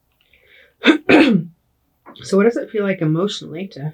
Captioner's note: clears throat